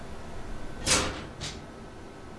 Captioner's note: clanking